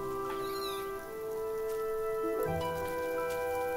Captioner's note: chatters